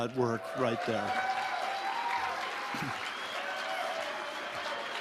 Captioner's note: audience applauding